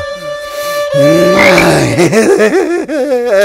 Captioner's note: Exhales; Exhales sharply